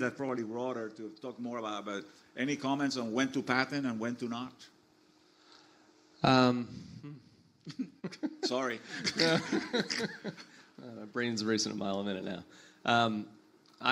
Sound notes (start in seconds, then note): 7.6 laughs; 8.8 panelists laugh